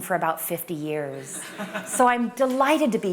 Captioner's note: laughter